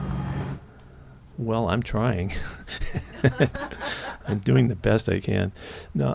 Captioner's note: laughter